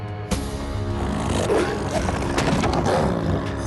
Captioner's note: growls